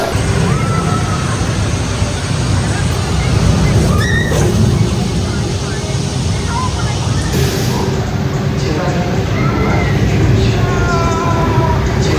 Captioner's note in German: schreien; schreien